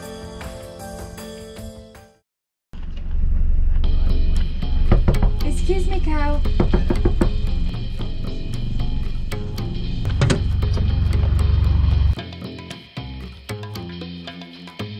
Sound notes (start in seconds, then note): 6.4 knocking